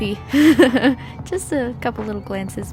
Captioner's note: laughs